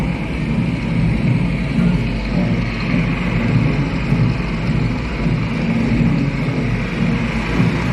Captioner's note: airplane sounds